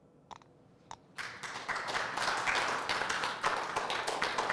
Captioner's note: applause